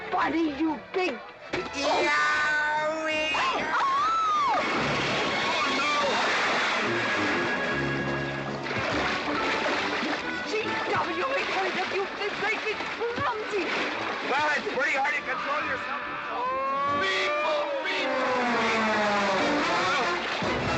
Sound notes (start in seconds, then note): 1.5 smack; 1.7 GW yelling; 3.3 Katherine screaming; 6.3 splash; 19.1 splashing around